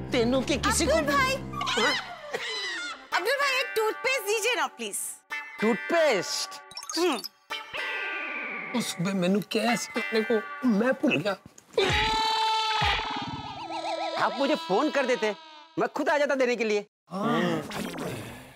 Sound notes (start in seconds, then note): 11.7 hits